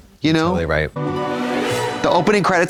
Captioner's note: ghostly chime